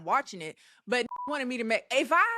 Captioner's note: beep